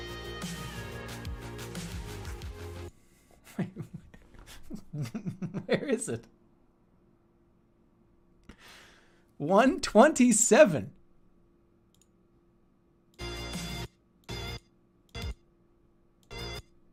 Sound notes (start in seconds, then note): 3.4 giggling